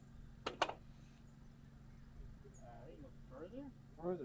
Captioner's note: metal tapping wood